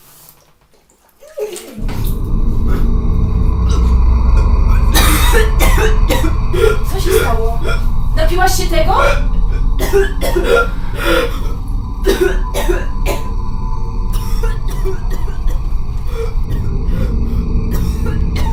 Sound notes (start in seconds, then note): 1.4 chokes; 2.7 sinister music; 4.7 coughs hard; 9.5 chokes and coughs